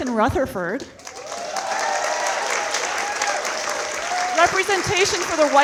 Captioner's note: audience applauding